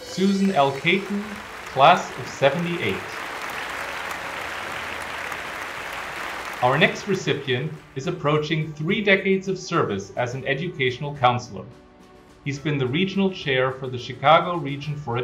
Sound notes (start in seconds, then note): 2.8 applause